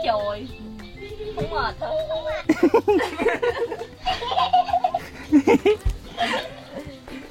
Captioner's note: voice imitation